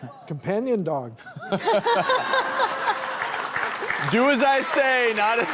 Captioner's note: laughter